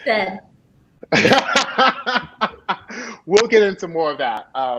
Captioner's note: laughing